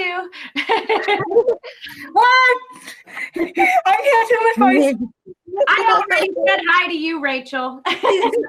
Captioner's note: laughs; laughs